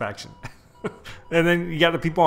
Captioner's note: chuckles